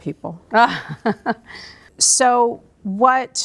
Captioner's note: laughs